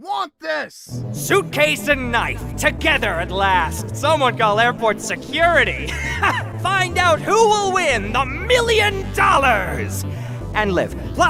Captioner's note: laughs